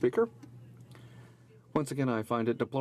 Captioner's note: speaking in french